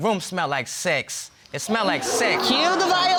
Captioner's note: audience exclaiming